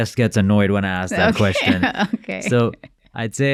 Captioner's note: laughing